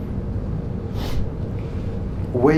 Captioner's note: sniffs